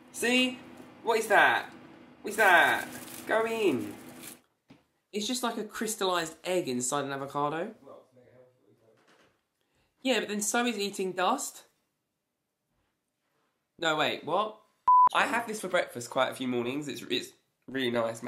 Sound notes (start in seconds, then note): 14.8 beep